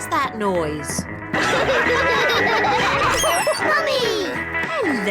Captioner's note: all laugh